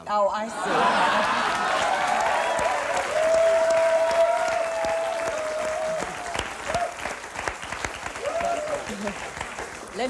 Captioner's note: laughter, hoots, applause